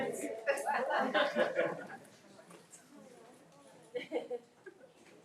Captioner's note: people laughing